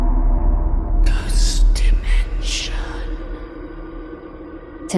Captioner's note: ghostly Voice